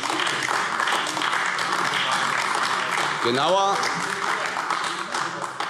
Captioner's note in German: Beifall AfD